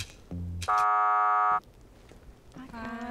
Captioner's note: buzzer